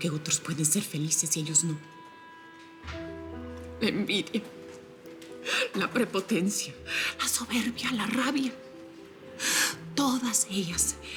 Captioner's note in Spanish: Solloza